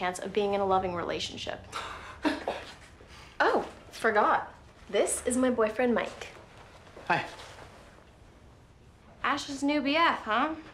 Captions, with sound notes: of being in a loving relationship. (laughs) Oh. Forgot. This is my boyfriend, Mike. Hi. Ash's new B.F., huh?